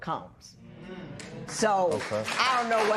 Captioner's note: applause